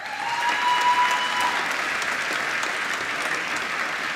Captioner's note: applause